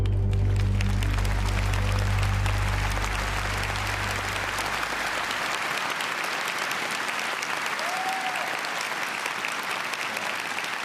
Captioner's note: applause